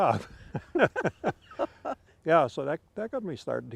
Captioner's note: laughing